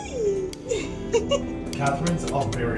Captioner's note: laughs